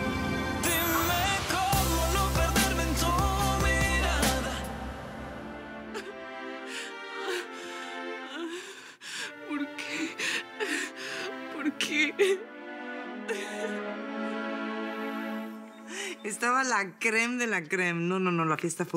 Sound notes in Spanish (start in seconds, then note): 5.8 Sollozos